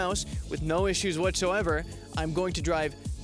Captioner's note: sarcasm